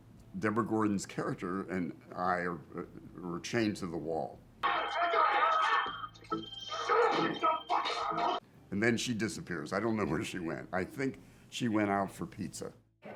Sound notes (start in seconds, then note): 4.7 zombies growling, Men shouting